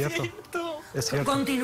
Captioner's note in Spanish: Sollozos